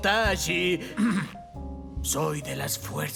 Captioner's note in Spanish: Se carraspea